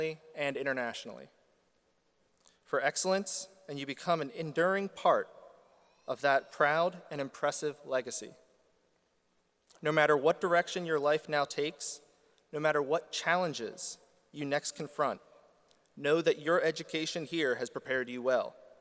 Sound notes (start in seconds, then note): none